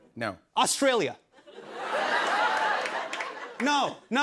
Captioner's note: laughter and applause